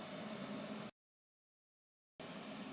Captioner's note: muted